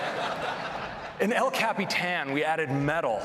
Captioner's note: laughter